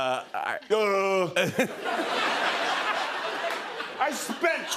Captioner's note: laughter